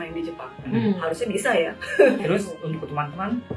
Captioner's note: laughs